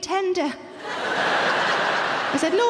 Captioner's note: audience laughing